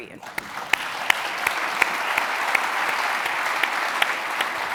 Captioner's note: audience applauding